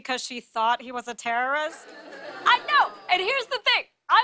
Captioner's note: audience groans